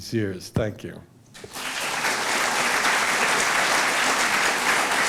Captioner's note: applause